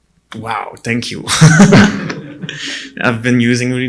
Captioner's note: audience chuckling